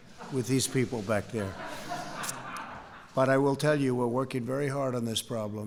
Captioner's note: laughter